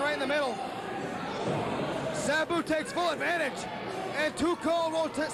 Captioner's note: cheers and applause